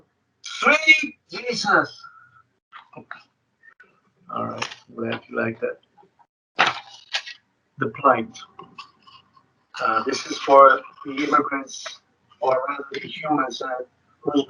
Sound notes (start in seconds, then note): 6.6 paper rustling